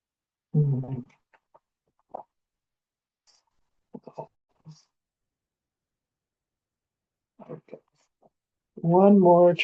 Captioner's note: pause